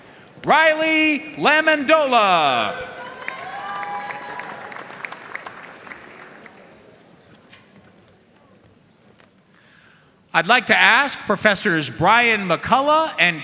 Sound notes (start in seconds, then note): 2.9 audience cheering and applauding